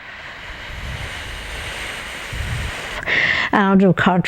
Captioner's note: breathing out